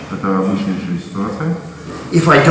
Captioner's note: speaking in a foreign language